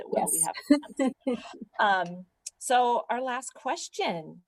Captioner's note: laughter